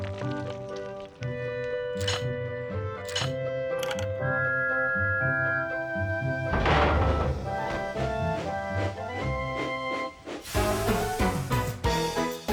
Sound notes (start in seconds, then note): 4.3 whistle blows; 7.6 chug chug